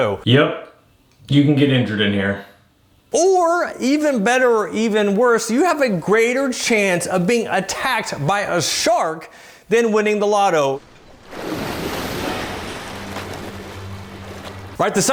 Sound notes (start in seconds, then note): 10.4 water splashing; 12.8 suspenseful music